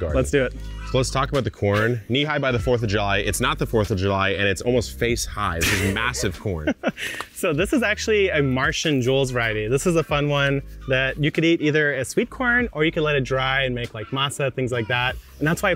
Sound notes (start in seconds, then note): 0.9 upbeat music; 5.5 laughing